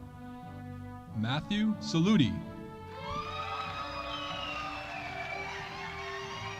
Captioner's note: audience applauding